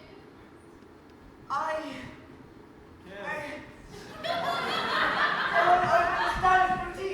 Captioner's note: audience: kiss!, followed by laughter